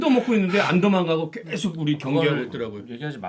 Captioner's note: scratching anxiously